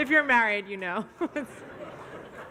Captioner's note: laughs